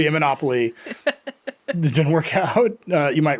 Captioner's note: laughing